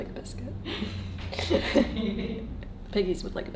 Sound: laughing

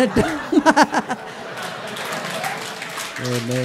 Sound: laughter; laughter and applause

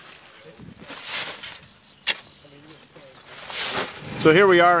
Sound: dirt sliding

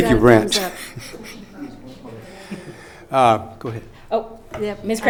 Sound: laughing

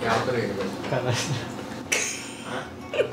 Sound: laughs; laughs

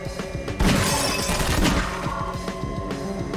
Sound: gunshots

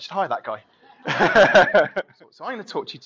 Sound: laughing

